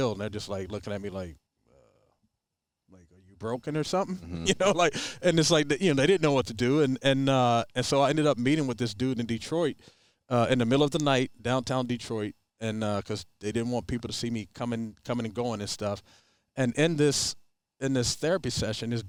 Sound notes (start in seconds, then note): 4.0 chuckles